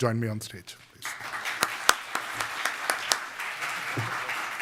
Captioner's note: audience clapping